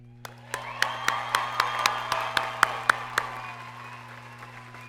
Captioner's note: audience cheers and applauds